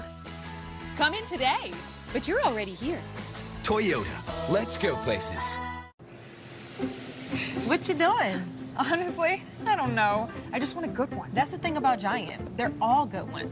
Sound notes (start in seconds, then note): 6.1 shopper inhaling